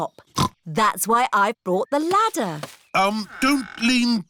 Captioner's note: snorts